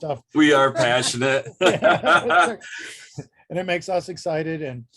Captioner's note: laughs